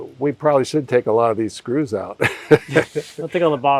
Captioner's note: laughs